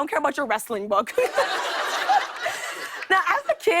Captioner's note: laughter